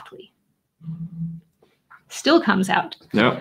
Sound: bottle echos

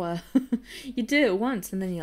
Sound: giggles

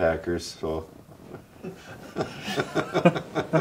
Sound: laughing

